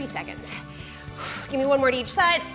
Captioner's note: exhales